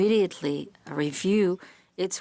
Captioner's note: speaking French